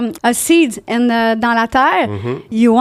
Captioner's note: in french